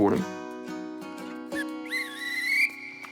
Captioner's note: whistle trills